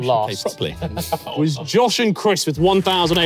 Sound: chatting and laughing

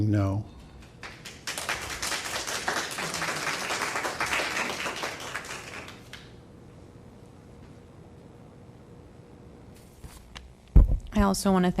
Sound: applause

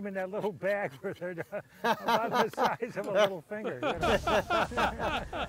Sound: all laugh; chuckles

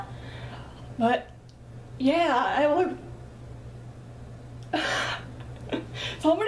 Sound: laughs

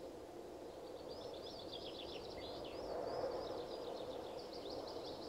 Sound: birds chirping

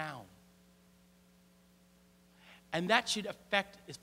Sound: <i>Brief pause</i>

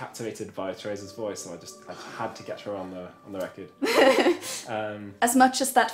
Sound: laughs

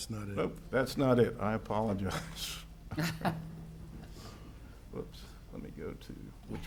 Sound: laughs

